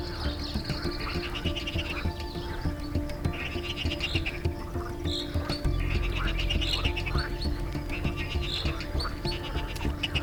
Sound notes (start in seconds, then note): 0.0 frogs croaks